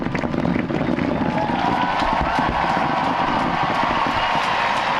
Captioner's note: cheering, applause